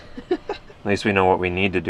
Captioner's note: laughs